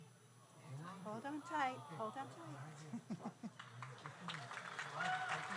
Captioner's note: audience applauds; laughs